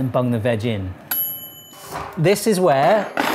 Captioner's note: bell pinging